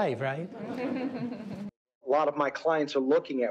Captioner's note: group laughing